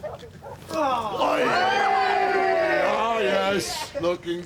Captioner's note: cheering